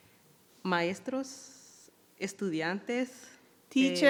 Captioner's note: speaking in foreign language